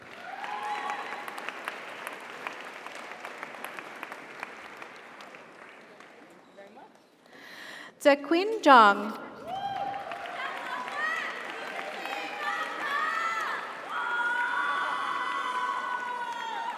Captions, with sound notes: (audience applauds) (audience cheers) - Congratulations. - Thank you very much. - Zekun Zhang. (audience applauds) (audience cheers)